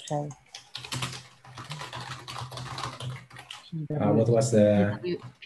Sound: keyboard clattering

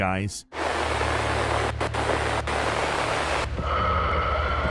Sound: white noise

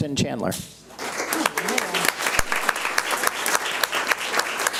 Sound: audience applauds

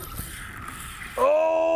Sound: reel spinning

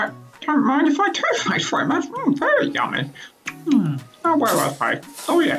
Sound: chomp chomp

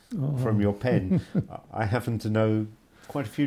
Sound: laughs

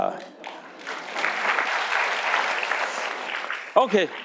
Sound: audience applauding

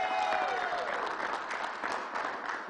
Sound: cheers and applause

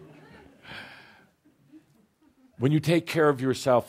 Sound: laughter

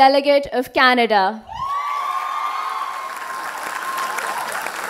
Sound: applause

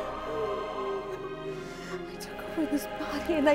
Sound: weeping

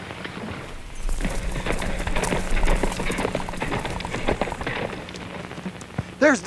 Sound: water splashing; hooves clopping

